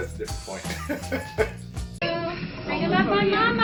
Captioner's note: laughing